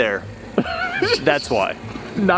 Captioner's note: laughing